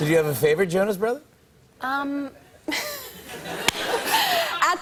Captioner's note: laughs